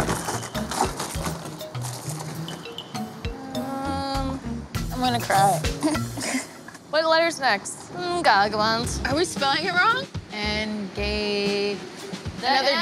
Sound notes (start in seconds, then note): 5.7 laughs